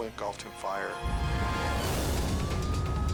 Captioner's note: fire roaring